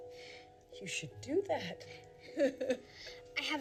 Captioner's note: laughs